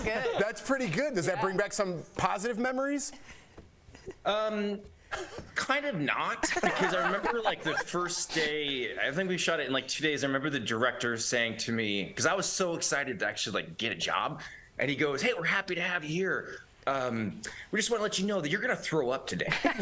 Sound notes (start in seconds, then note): 3.2 laughter